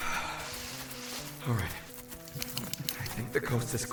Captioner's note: deep breath